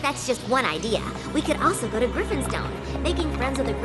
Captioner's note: voice fades